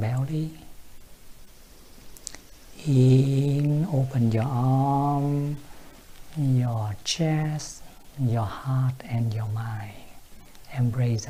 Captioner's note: breathe